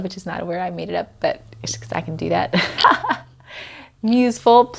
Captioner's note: laughs